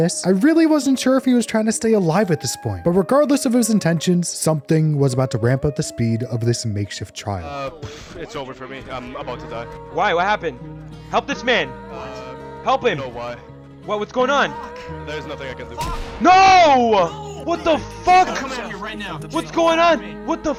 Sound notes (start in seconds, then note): 15.8 gunshot; 16.4 yells